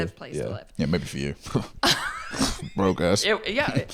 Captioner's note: scoffs